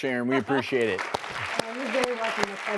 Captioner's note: crowd claps